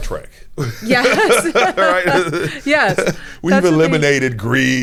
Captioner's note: both laughing